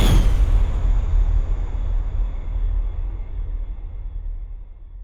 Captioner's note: fire whooshes